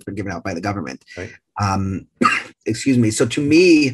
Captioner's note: coughs